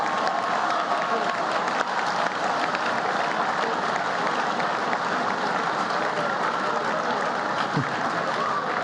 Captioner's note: laughter